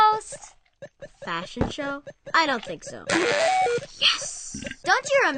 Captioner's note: video game beeps